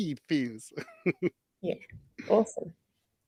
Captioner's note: laughs